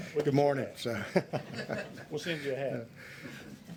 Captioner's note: laughter